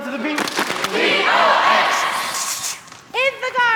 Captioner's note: clapping